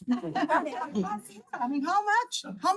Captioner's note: attendees laughing